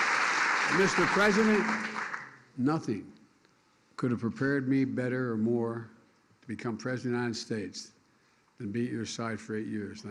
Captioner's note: cheers and applause